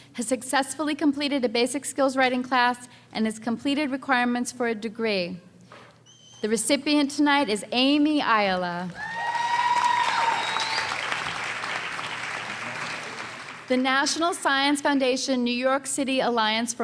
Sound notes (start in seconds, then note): 8.9 audience cheering and applause